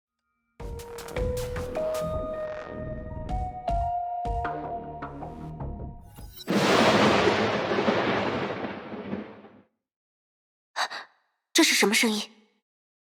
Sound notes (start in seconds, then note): 6.6 rumble